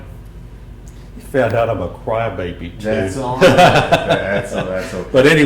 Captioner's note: coughs